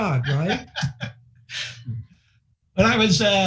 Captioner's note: laughing